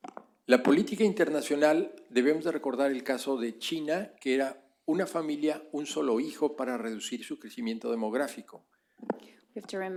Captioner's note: speaking spanish